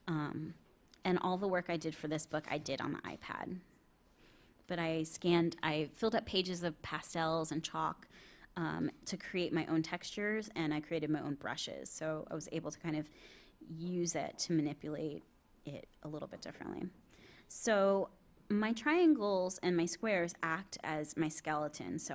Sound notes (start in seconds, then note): none